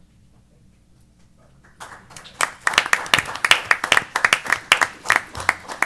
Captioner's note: applause